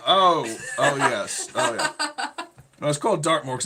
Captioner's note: laughing